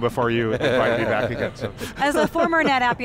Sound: laughing

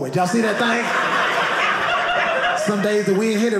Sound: audience laughing

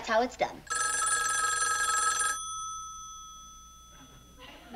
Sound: phone ringing

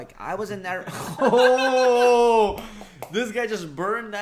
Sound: laughing

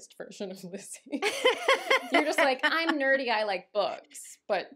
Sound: laughter

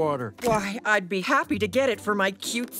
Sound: none

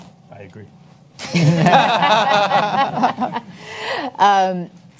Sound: attendees laugh

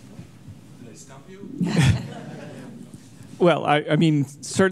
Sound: all laughing

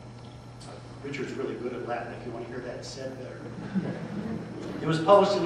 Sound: laughter

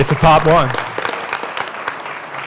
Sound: applause

